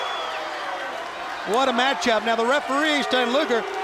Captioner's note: crowd cheering